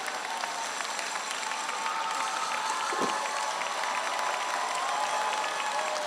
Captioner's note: audience applauding; audience cheering